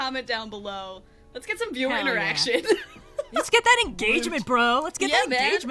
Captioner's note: laughs